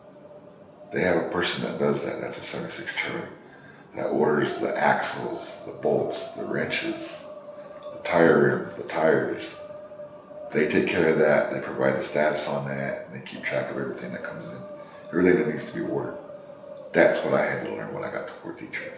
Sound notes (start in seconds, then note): 3.9 laughs